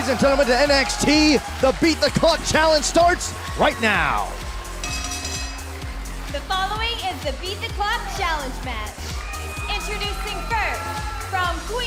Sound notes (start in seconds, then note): 4.8 bell ringing